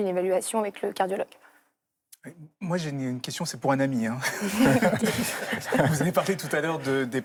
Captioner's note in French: rires